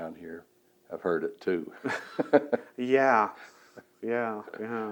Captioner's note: laughs